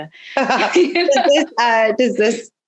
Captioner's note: laughing